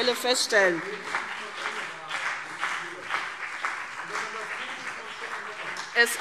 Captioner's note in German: Beifall CDU und BÜNDNIS 90/DIE GRÜNEN - Widerspruch AfD